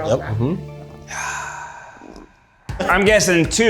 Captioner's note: sighs